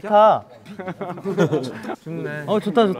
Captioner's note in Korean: ㅎㅎㅎㅎ